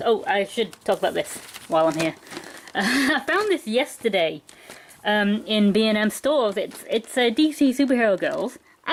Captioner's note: laughs